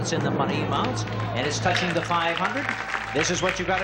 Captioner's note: audience cheers